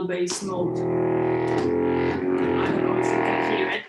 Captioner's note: bellow striking